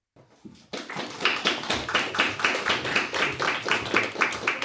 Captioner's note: audience applauding